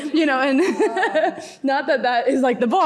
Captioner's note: laughs